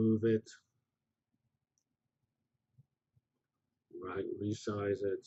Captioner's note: pause